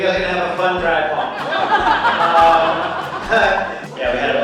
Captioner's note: audience laughs